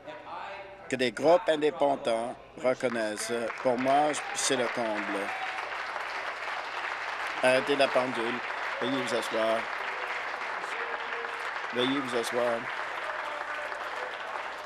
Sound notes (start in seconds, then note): 8.6 applause